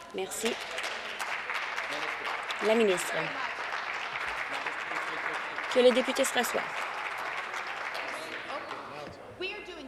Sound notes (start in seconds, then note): 2.8 applause